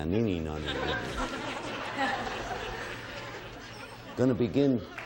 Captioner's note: all laughing